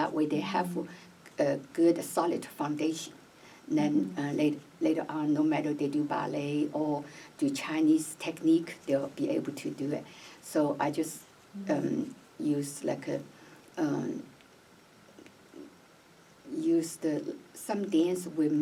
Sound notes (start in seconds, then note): none